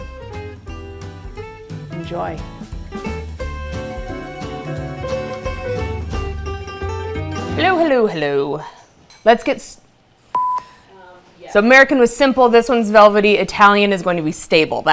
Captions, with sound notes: (upbeat music) Enjoy. (upbeat music) Hello, hello, hello. Let's get... (screen beeping) - Yeah. - So American was simple. This one's velvety. Italian is going to be stable.